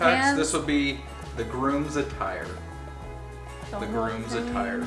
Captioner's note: male Voice